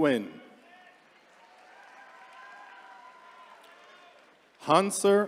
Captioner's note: attendees cheering